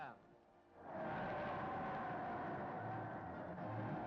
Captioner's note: crowd cheering